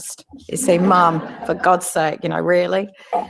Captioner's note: laugh